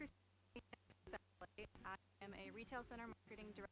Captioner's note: stuttering audio